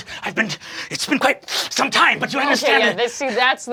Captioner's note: sniffing